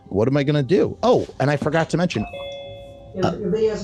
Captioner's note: ZOOM Doorbell ring